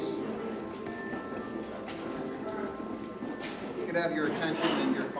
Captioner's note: conversations soften